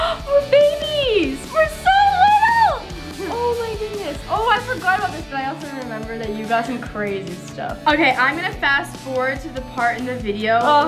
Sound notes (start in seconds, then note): none